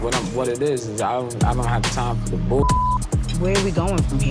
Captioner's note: beep